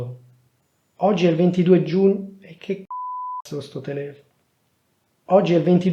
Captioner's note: beep